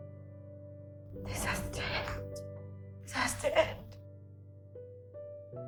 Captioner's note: voiceover